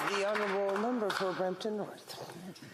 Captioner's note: applause